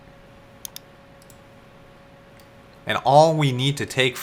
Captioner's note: mouse clicking